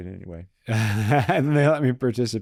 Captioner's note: both laughing